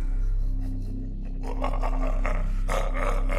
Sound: Mohuru laughs

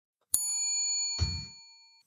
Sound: bell ringing

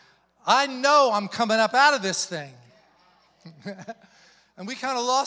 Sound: chuckles

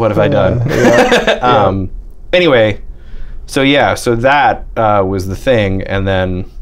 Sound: laughter

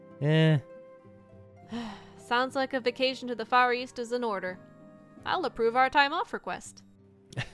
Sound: sigh; nervous laugh

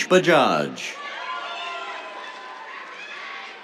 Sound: cheers, applause

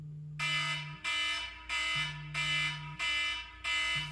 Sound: alarm ringing

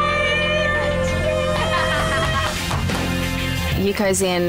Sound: laughs; claps

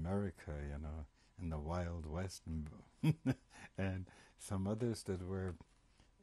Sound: laughs

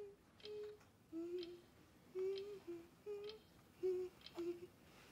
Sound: clock Ticking; girl Quietly Humming

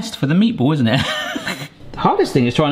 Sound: laughs

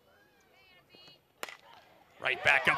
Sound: ball hitting bat

